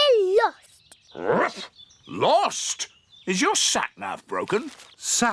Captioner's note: barks